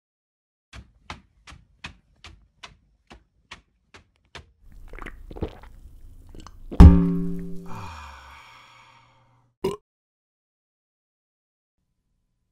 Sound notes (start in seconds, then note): 4.6 slurp, Gulp; 6.8 boing; 9.6 burp